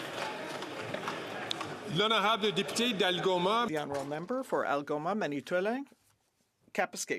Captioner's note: some Applause